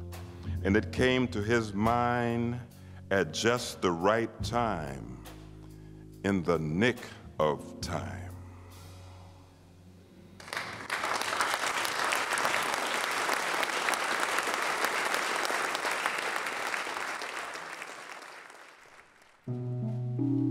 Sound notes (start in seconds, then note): 8.3 applause